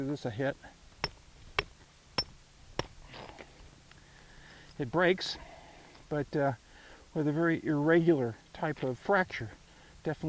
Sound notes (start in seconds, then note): 1.0 hammer tapping